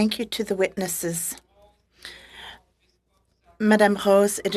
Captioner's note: speaking French